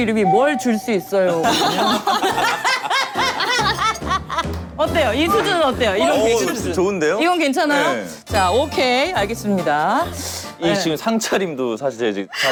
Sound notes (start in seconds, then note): 1.3 laughing